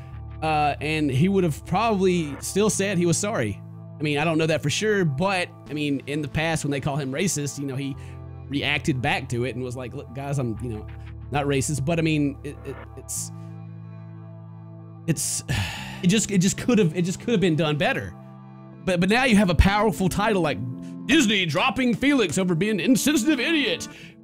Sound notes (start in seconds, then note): 15.4 sigh